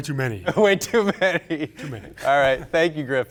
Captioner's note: laughs; chuckles